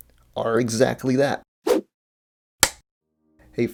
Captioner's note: whoosh, film clapper sound